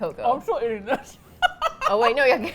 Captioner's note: laughs